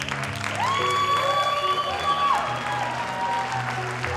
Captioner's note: audience applauding; audience cheering